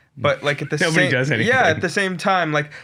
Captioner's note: chuckles